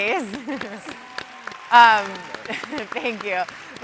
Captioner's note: audience applauds